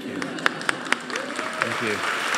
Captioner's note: audience applauding